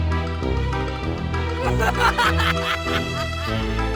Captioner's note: creepy laughter